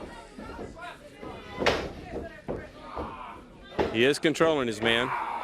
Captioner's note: crowd chatter